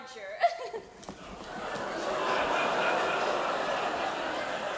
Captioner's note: laughing; audience laughing